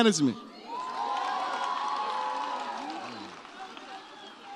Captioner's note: audience cheers